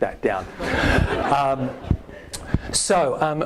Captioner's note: all laughing